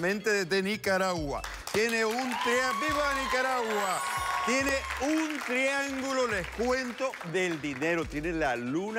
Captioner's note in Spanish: Aplausos; Exclamaciones